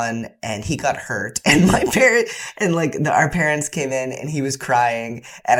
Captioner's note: laughter